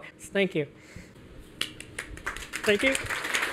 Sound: applause

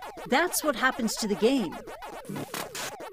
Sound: gaming sounds

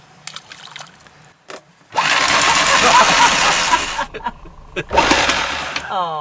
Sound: laugh loudly

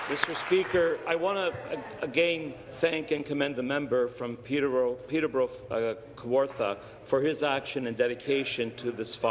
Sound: some Applause

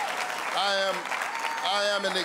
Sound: cheering and applause

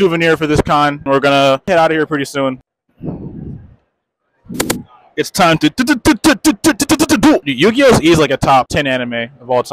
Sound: Yu-Gi-Oh noises

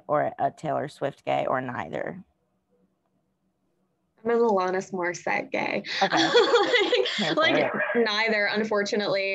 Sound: laughs

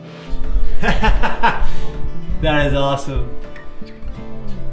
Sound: laughs

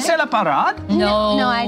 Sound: speaks in foreign language

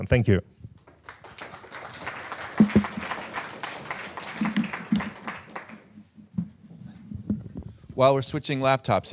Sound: applause

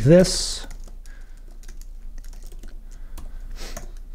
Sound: keyboard typing

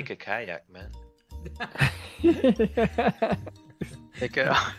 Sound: laughter

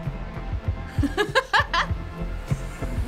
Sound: laughs; chuckles

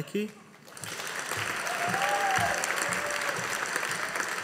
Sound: audience applauding

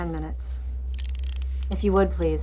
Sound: timer clicks

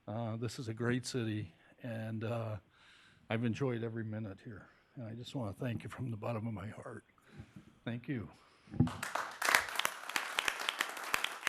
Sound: applause

